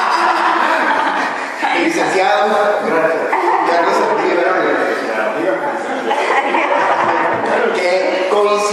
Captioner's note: laughter; laughter